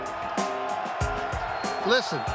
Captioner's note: crowd cheering; upbeat music